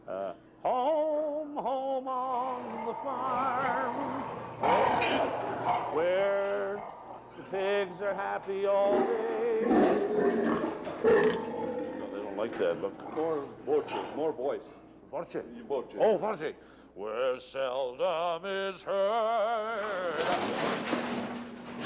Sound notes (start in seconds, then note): 5.5 pigs snorting; 11.8 grunting